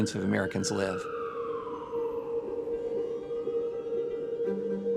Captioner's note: siren blaring